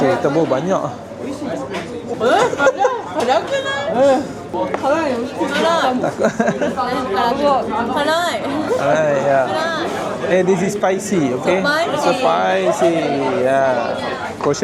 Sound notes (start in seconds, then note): 1.2 laugh; 1.2 speaking Japanese; 5.6 laugh; 6.9 speaking Japanese